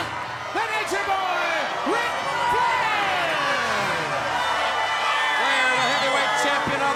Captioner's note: crowd cheering